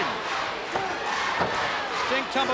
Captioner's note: crowd cheering